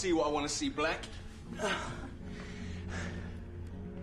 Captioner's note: gasps